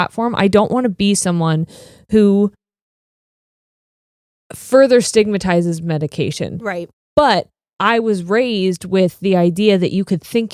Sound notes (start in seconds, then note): none